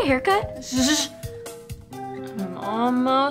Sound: shushing

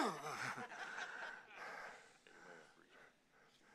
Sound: congregation laughing

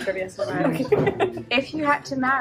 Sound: laughs

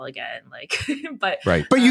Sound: laughs

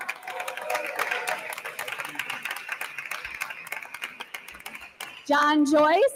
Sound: attendees applauding

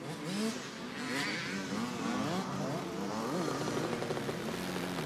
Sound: motorcycles revving

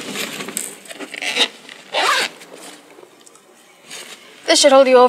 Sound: bag zipping

